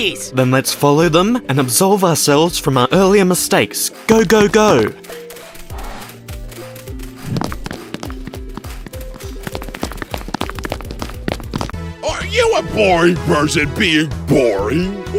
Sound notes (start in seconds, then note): 4.1 running sounds